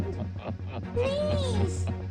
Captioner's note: evil laughter